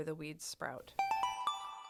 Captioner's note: chime